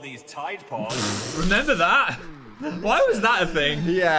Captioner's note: shorting